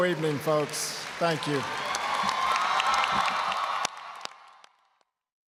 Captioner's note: applause, cheering